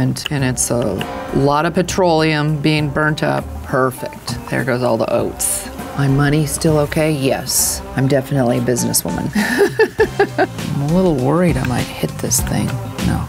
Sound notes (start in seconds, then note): 9.3 laughs